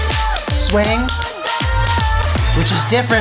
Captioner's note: clapping to beat